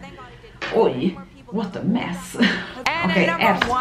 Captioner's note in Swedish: skratt